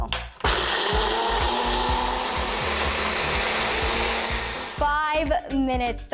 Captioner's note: food processor buzzing